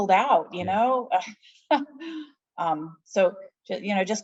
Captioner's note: laughing